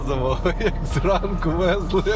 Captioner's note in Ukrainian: сміх